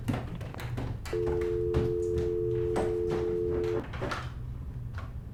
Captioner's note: dial tone beeping